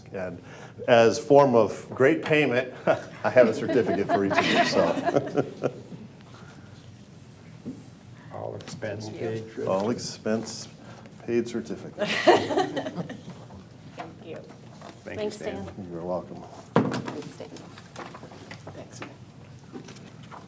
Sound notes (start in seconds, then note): 2.6 board members laughing; 2.7 chuckles; 12.0 laughs